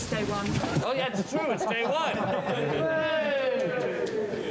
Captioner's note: all cheering